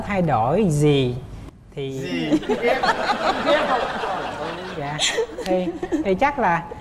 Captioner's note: laughing